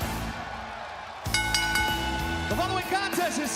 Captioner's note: bell ringing